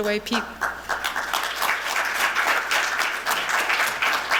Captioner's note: clapping